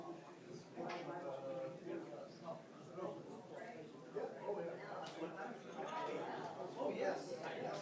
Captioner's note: audience noise continues